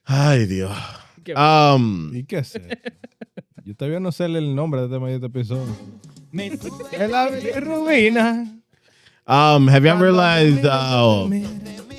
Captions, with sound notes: Hi, Dio. (Speaking In Foreign Language) (Laughing) (Speaking In Foreign Language) Have y'all realized--